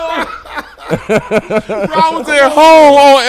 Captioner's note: laughing